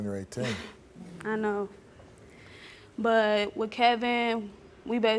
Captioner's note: laughs